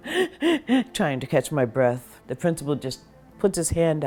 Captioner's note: hyperventilates